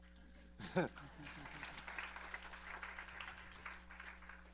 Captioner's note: applause